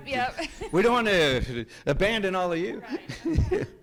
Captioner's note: host laughs